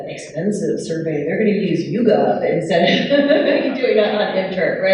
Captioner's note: all laughing